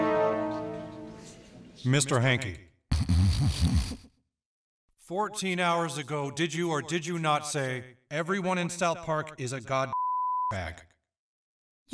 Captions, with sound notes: - Mr. Hankey. (Mr. Hankey snorts) 14 hours ago, did you, or did you not say, "everyone in South park is a God (beep) bag?"